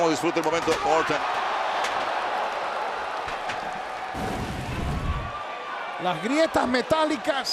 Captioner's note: applause